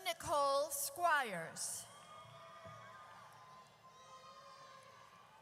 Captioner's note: audience cheers